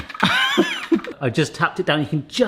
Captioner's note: giggles